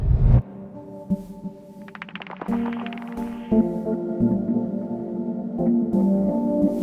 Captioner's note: air whooshing; intriguing music; rubble clattering